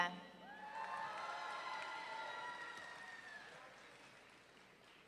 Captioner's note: audience cheering